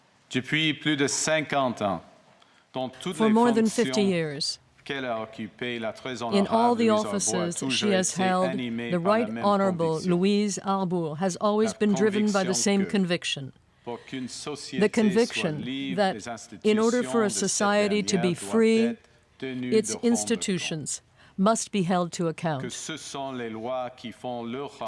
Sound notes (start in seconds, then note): 7.9 speaking French